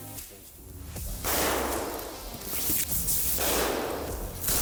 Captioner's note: gunshots ring out